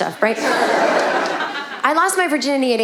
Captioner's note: audience laughing